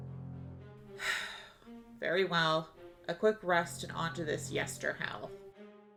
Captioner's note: sighs